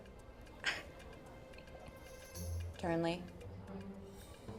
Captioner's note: chuckles